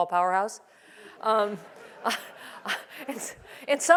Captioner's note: laugh